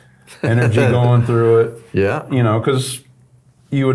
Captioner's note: chuckles